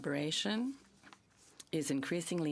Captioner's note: speaking French